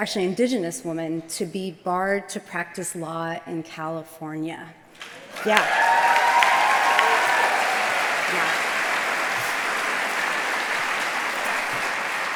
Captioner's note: applause